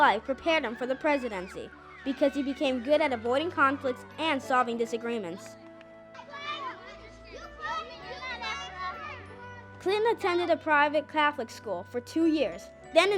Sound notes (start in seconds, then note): 6.0 children playing